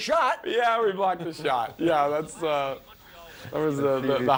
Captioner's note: laughter